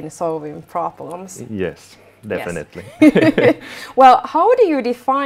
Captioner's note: both laughing